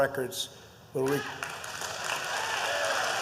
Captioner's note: applause